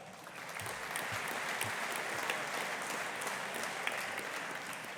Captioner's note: audience applauding